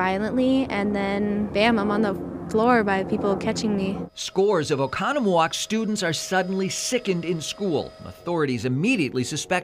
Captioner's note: sirens